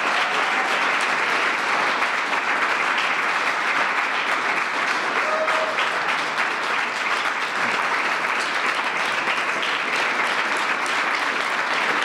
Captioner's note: applause